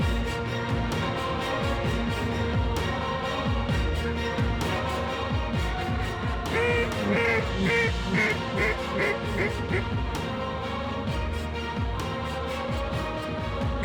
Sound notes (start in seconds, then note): 5.6 duck calls; 13.5 duck calls